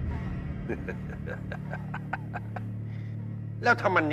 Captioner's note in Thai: เสียงหัวเราะ